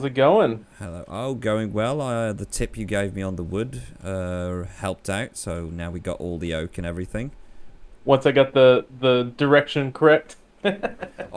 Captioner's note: laughs